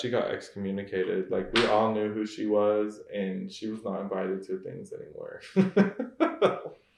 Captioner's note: laughs